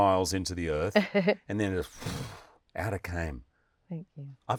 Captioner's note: breath whooshes